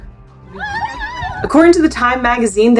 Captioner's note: background music; screaming in clip